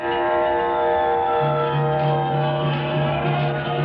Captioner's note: gong clanging